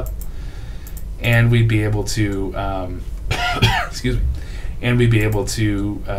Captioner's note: coughs